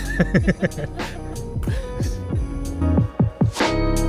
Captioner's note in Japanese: 苦笑